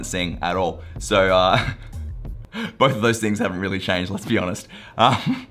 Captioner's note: laughs